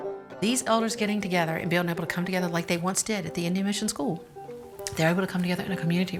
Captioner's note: none